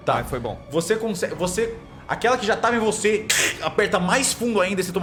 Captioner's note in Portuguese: kreeech